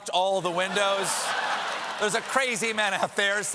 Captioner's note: laughter